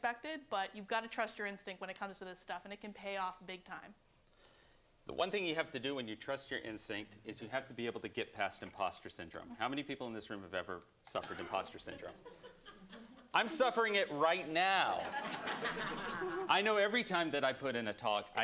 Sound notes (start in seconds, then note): 11.3 laughter